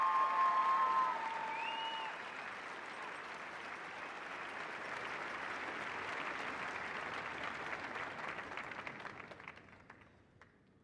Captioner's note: cheers and applause